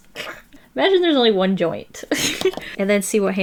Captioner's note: laughs